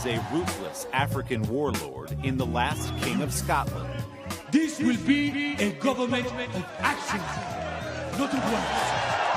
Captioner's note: cheers